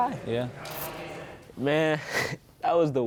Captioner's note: laughing